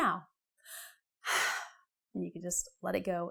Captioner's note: heavy breathing